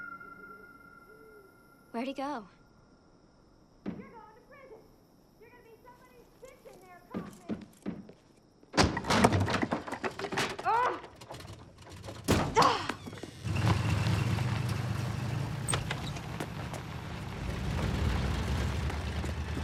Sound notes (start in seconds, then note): 10.8 grunts